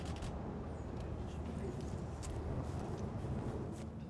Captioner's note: camera clicks